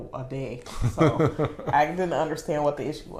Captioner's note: laughing